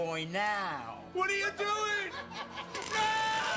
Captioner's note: laughter